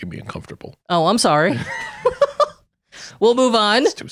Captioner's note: laughing